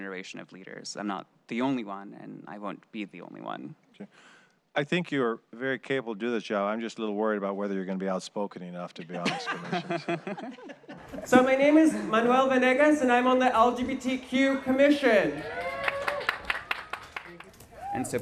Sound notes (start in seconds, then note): 8.9 laughter; 15.2 cheering